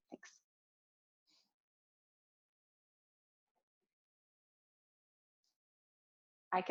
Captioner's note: silence